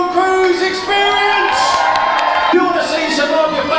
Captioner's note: crowd cheering